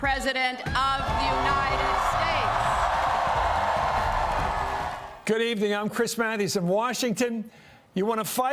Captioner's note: cheers